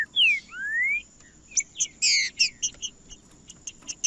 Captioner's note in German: trinca ferro cantando